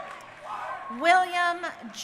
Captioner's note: crowd cheering